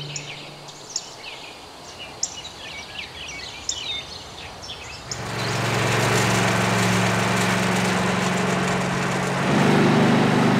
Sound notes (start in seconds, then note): 0.0 birds chirping; 4.9 engine rumbling